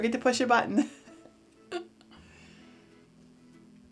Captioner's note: chuckles